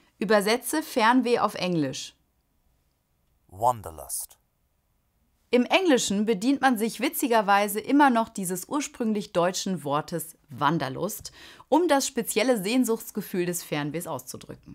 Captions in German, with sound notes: Übersetze Fernweh auf Englisch. (englische Stimme im Off) Wanderlust. Im Englischen bedient man sich witzigerweise immer noch dieses ursprünglich deutschen Wortes Wanderlust, um das spezielle Sehnsuchtsgefühl des Fernwehs auszudrücken.